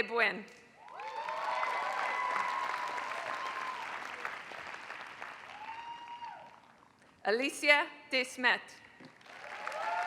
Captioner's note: applause; applause